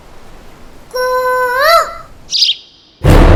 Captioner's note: Mimicking Cuckoo's voice